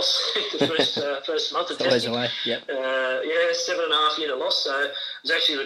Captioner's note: chuckles